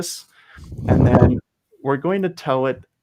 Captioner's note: laughing